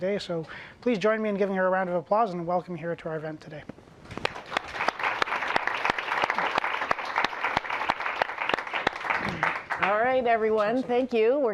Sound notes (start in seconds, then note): 4.2 applause